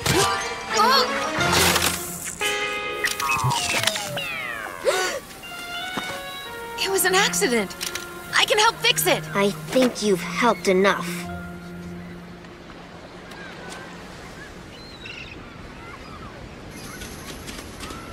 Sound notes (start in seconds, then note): 1.4 crash; 2.7 drone beeps slowly; 4.8 gasps